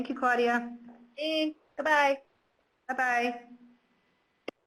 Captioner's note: voiceover